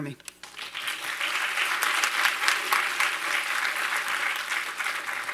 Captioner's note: audience applauding